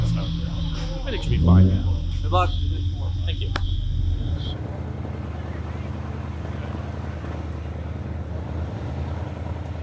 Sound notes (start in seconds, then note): 3.5 hands clap; 4.7 engine revving